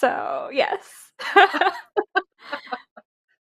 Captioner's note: laughs